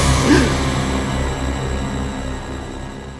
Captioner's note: dramatic music; gasps